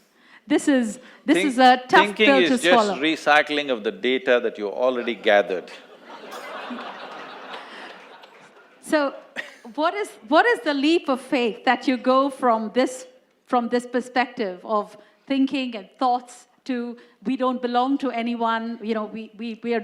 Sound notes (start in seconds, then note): 8.0 laughter